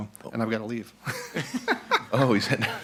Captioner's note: laughs